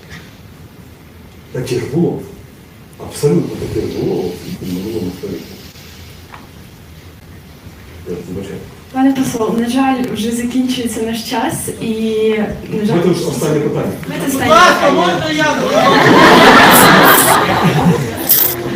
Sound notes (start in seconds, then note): 15.5 laughter in the hall